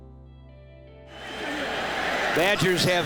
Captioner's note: crowd cheering